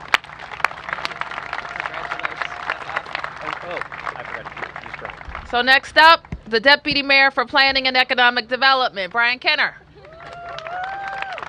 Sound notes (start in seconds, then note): 3.7 applause